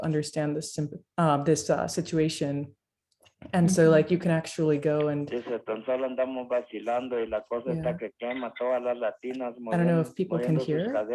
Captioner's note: voice of man speaking in Spanish